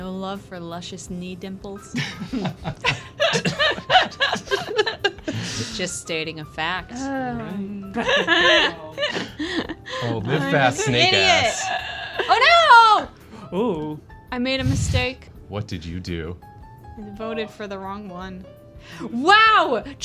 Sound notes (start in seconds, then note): 7.9 laughter